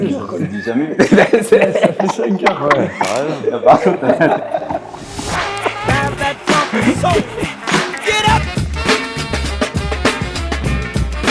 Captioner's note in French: Rires